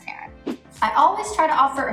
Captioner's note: air whooshing